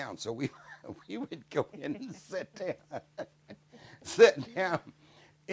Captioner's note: laughs